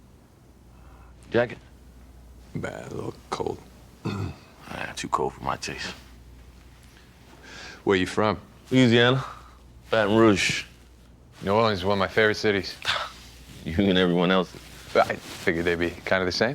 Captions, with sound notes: Jacket? - I'm battling a little cold. - Ah, too cool for my taste. - Where you from? - Louisiana. Baton Rouge. - New Orleans is one of my favorite cities. (chuckles) - You and everyone else. - I figured they'd be kinda the same.